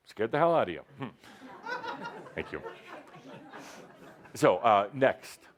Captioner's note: some laughter